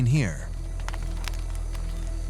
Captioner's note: fire crackling